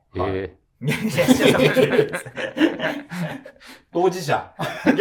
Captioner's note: laughing